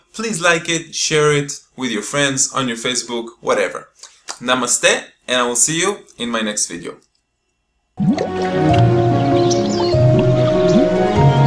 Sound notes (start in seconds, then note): 8.0 bubbling; 8.0 gentle music; 8.6 birds chirping